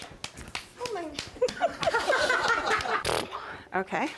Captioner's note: laughter